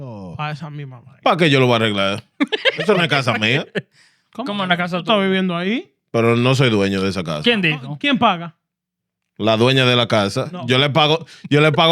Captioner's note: speaking In Foreign Language